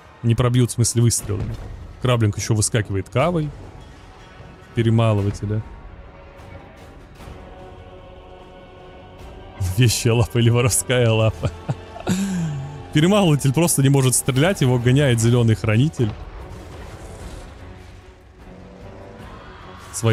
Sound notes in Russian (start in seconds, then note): 11.3 смех